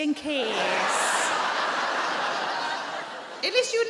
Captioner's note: audience laughing